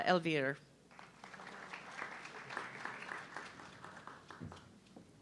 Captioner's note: audience clapping